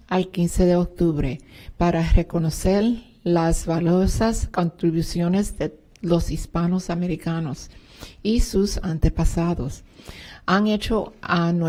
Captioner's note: speaking spanish